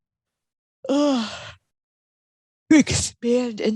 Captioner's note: yawning